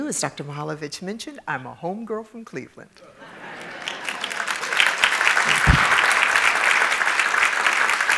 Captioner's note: appaluse